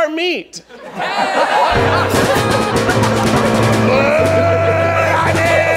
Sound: audience laughing

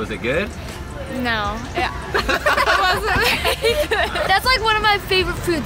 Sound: laughs

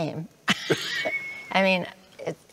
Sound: laughing

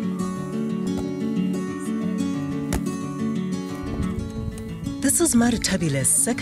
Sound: sounds of women playing ball

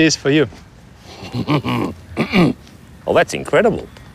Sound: grunts

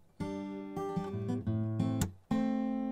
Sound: none

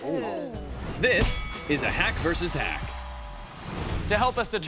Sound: bell dings

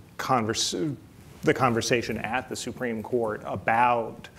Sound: none

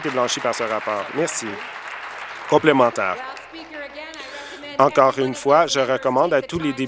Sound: applause

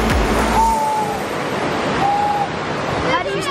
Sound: whistles

